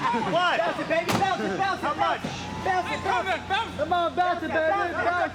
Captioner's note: people laughing; overlapping chatter